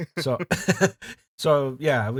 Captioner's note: laughter